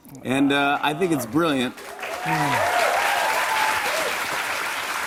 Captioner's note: cheers and applause